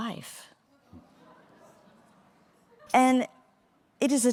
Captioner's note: audience murmuring